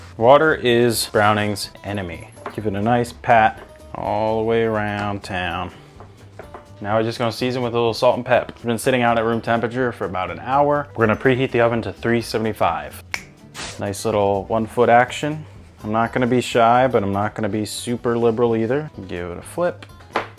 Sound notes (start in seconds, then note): 13.0 fingers snapping; 13.4 air whooshing